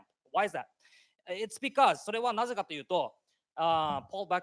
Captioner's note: speaking japanese